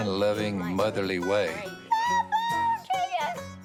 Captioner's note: squealing